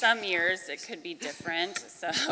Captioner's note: laughing